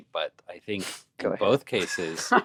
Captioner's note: laughs